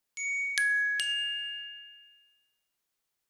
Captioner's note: chimes